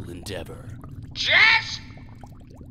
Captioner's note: yelling